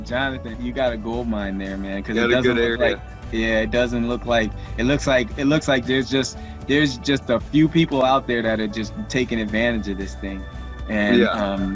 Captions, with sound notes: Jonathan, you got a goldmine there man. - (murmurs) - Yeah, it doesn't look like.. It looks like there's just a few people out there, that are just taking advantage of this thing, and...